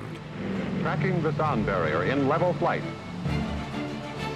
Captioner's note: radio voice